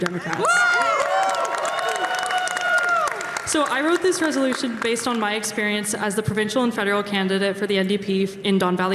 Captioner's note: cheering